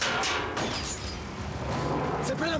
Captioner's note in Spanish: sonido del motor